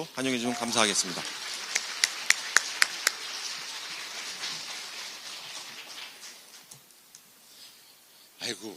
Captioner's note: applause; 박수